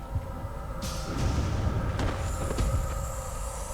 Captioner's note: loud boom